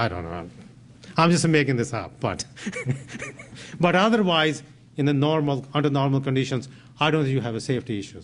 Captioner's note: laughs